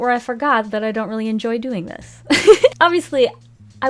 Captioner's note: laughs